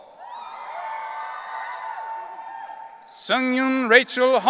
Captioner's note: audience cheering